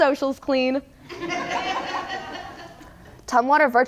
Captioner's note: audience laughs